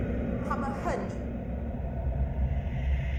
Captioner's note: Mandarin language